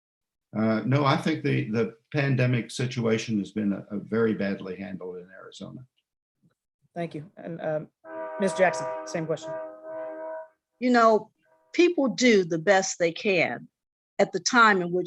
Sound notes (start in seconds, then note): 9.6 train horn blaring